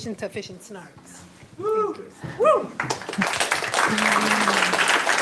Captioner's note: applause